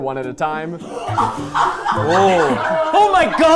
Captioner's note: crew laughing